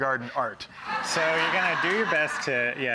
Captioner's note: audience laughs